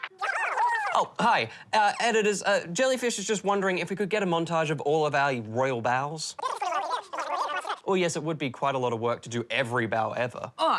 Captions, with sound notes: Oh, hi. Editors, Jellyfish is just wondering if we could get a montage of all of our royal bows. (RAPID HIGH PITCHED CHATTER) Oh, yes, it would be quite a lot of work to do every bow ever.